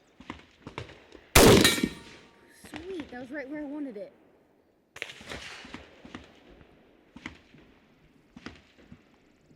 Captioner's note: resumes firing